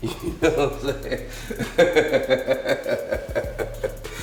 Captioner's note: laughs